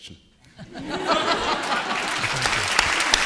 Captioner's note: audience laughing; audience applauding